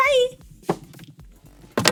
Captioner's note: door shuts